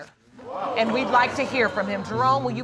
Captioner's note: audience exclaims